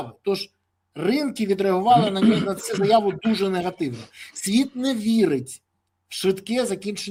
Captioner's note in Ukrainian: прочищення горла